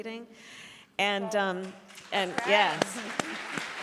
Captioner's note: applause